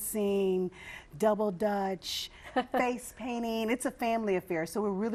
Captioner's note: laughing